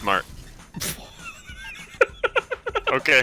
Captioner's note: laughs